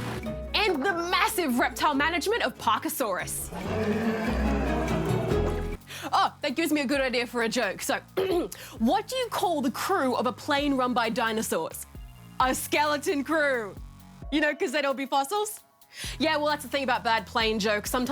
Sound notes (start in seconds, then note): 3.4 dinosaur roars; 8.2 clears throat